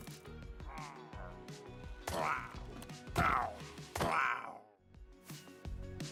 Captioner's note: Pillager Noises